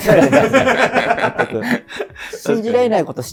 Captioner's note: laughing